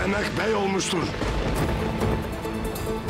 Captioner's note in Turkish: Gök gürleme efekti